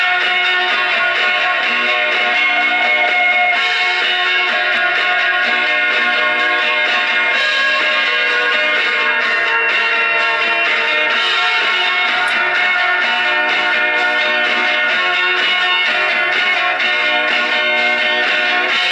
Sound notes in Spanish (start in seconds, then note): 6.2 campana